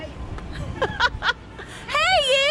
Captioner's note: laughter